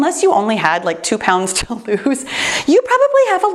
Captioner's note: laughs